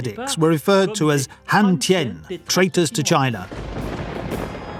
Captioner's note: speaks in foreign language